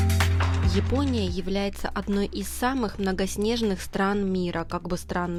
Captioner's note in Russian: закадровый голос